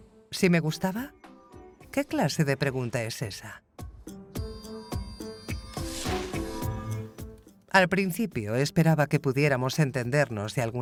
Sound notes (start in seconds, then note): 3.7 upbeat music continues; 5.8 air whooshing